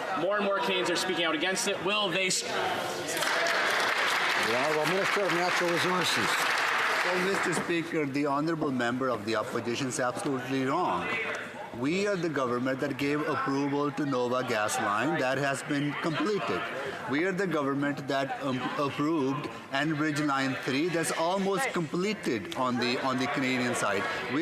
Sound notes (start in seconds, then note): 6.3 some Applause